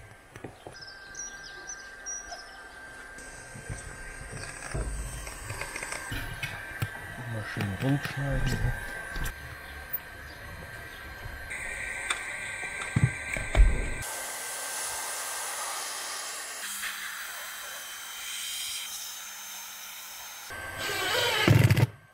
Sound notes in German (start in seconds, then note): 0.3 vogelzwitschern; 3.9 leises rattern; 9.2 rauschen